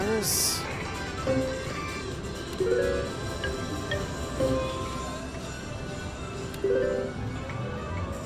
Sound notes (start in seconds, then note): 2.7 machine beeps